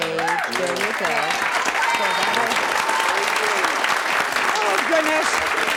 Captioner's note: audience applause